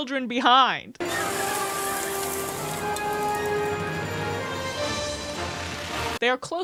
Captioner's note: tires screeching, intense music